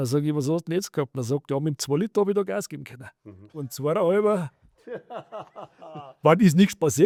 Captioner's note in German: gelächter